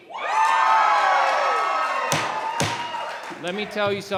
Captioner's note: cheering and applauding